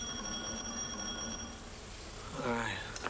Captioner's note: doorbell rings